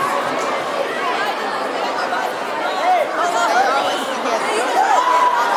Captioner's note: children shouting